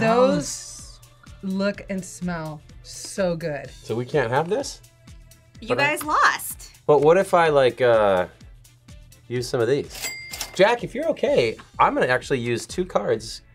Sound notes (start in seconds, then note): 9.9 cash register dings